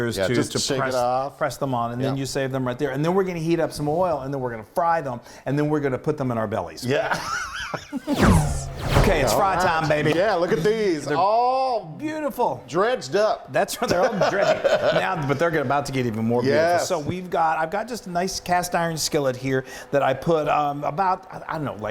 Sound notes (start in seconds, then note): 7.0 both laughing